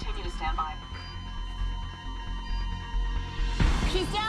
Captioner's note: monitor flatlines